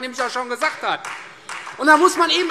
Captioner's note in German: Beifall